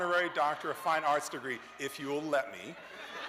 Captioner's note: cheers